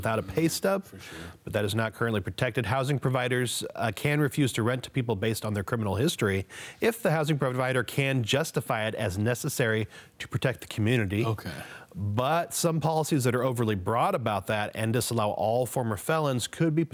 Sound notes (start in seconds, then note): 11.2 tut